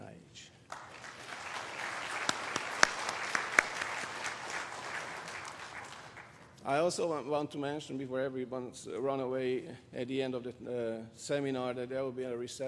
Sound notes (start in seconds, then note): 2.6 applause